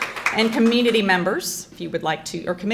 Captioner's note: crowd clapping